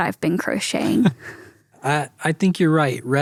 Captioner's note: chuckles